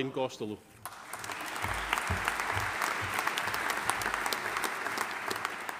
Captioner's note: audience applauding